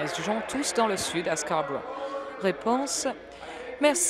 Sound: applause

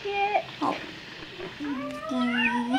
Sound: cooing

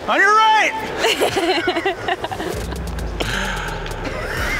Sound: laughs

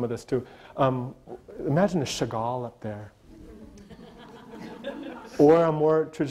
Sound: audience laughter

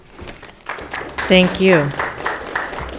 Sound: audience applauding

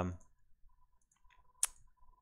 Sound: lip smack

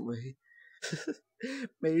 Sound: still laughy

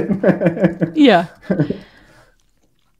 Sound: laughs

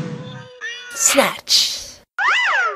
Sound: BFDI "snatch!" Sound

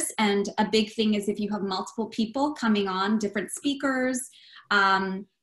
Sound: none

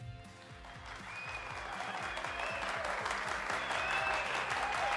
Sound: audience cheers and applauds

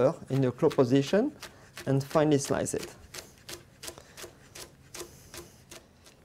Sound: slicing sounds

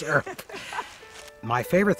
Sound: chuckling

